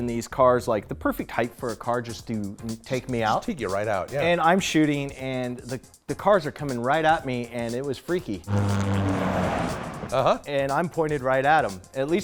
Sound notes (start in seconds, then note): 8.4 sounds of cars rushing past